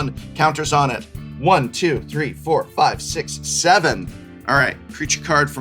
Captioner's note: counting